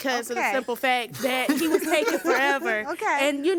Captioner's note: laughing